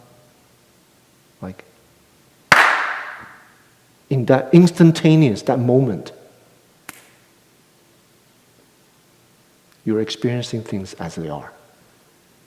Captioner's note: clap